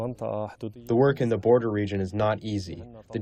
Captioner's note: through translator